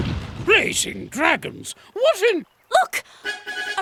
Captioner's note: thudding